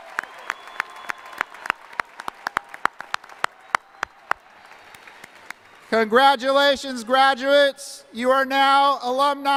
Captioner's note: cheering and applause